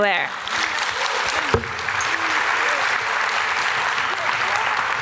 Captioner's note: audience applause